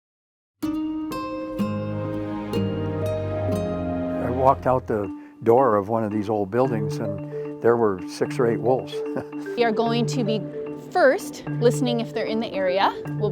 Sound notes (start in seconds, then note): 1.1 mellow guitar music; 9.0 chuckles